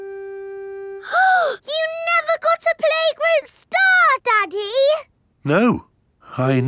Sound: gasps

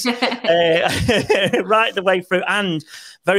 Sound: Christina laughing; laughs

